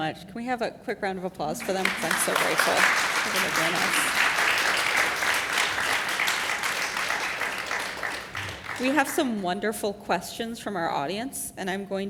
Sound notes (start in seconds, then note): 1.5 applause